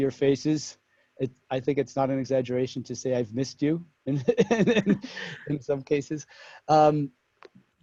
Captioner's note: laugh